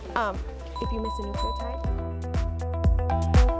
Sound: ding; theme music

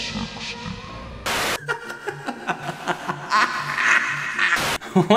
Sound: maniacal laugh

